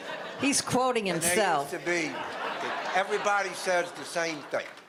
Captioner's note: audience laughter